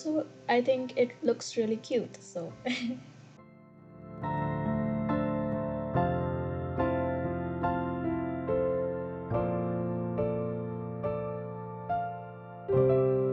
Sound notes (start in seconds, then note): 2.6 giggles